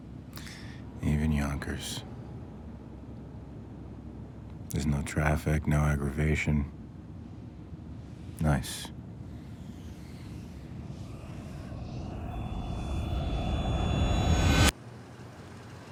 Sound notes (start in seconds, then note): 9.2 cars whooshing; 12.4 dramatic crescendo